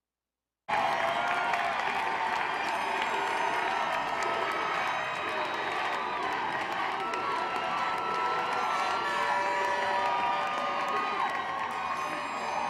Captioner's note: applause